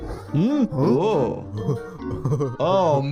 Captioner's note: Lumpy laughing